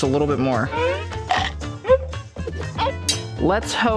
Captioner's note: scissors chomping